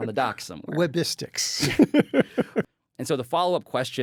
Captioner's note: chuckles